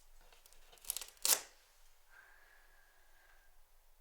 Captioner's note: tearing Velcro